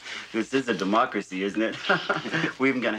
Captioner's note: laughs